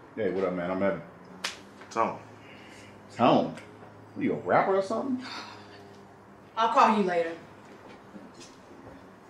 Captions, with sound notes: - Hey what up man, I'm Evan. (hands slapping) - Tone. - Tone, what are you, a rapper or something? - (scoffs) I'll call you later.